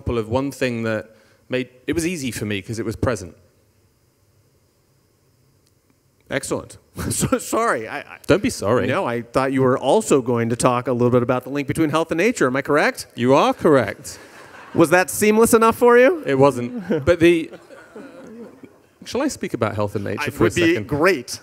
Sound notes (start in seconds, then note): 7.0 chuckles; 13.9 audience laughing; 16.2 chuckles